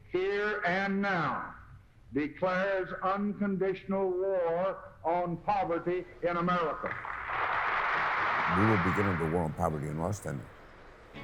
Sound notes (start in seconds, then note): 7.0 audience applause